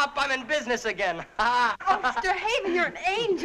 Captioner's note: laughing